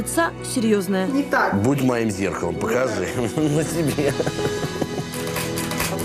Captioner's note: laughs